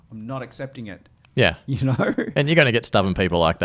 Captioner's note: laughs